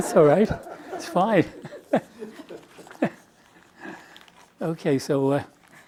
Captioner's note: laughing